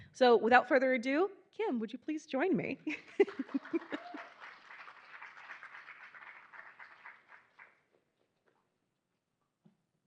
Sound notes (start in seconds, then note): 3.0 giggling; 3.2 attendees applauding